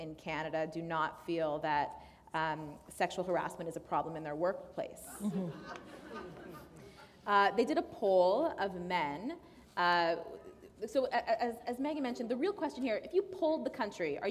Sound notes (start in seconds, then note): 7.0 laughter